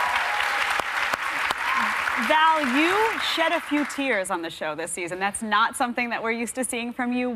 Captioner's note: cheers and applause